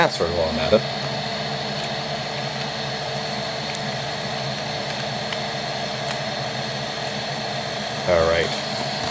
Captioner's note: fan noise combined with TV static and me typing my password